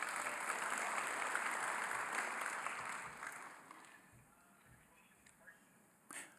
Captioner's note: applause